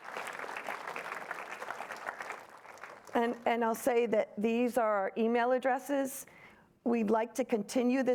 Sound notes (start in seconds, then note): 0.0 applause